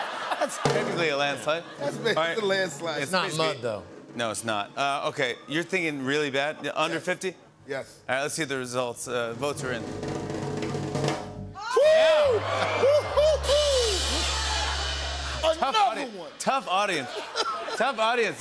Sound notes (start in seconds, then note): 0.0 laughter; 11.6 audience "Oohs"; 12.1 sad tuba